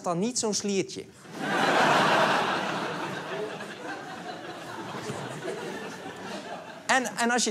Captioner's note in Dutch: Gelach